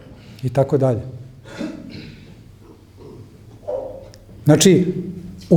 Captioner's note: coughs